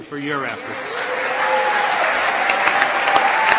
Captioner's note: applause